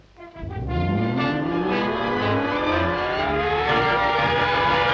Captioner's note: machine whirs loudly